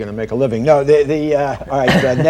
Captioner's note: laughter